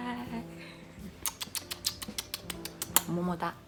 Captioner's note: kissing; speaking in foreign language